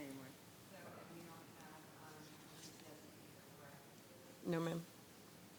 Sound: faintly speaking

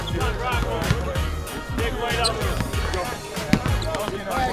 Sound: court chattering

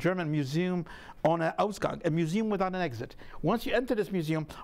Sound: speaking in a foreign language

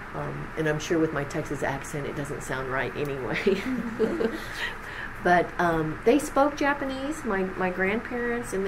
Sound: laughs

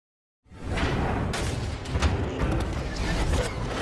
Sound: metal clashing

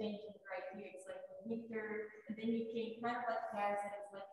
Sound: speaks faintly

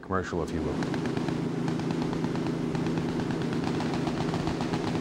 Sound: rapid, continuous gunfire

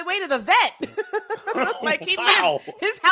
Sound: laugh

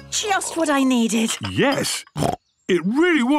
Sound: snorts

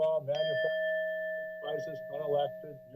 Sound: bell dings

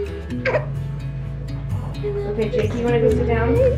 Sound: baby babbling

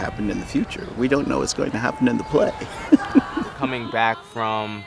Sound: chuckles

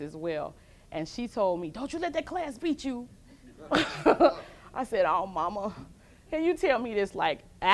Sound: laughs with audience

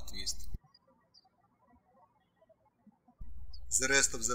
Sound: birds chirping

